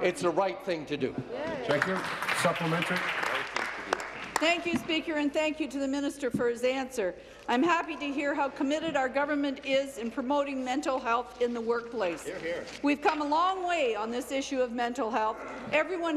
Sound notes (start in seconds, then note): 5.7 applause